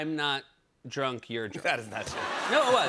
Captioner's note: laughter